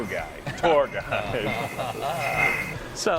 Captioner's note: laughter